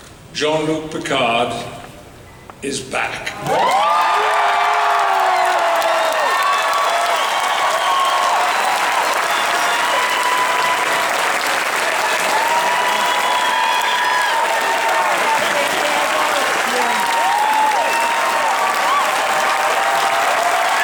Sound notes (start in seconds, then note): 3.1 audience Applauds; 8.5 audience Cheers; 12.9 audience Continues to Cheer